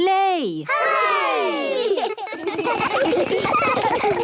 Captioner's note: laughter